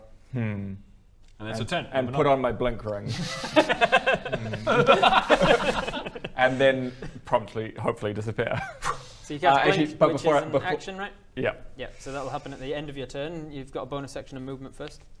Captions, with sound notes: Hmm And that's your turn! and put on my blink ring *laughter* and then promptly hopefully disappear - so you cast blink which is an action right? - ah actually but before I-- Yep yep so that will happen at the end of your turn, you've got a bonus action and movement first